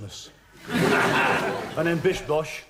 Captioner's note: audience laughing